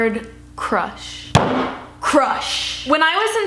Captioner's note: fist slamming